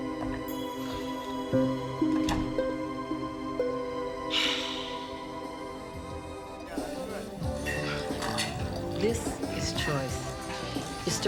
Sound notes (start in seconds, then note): 4.3 Nora sighs; 7.0 upbeat music